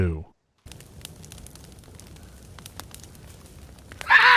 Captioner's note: crackling of fire